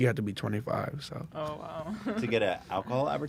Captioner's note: laughs